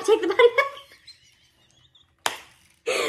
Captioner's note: wheezing